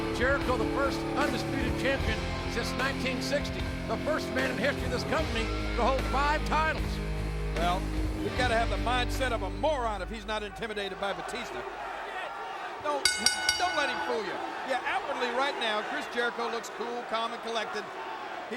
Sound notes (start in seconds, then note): 13.0 bell dinging